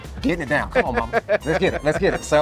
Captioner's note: laughing